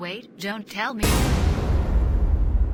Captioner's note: hit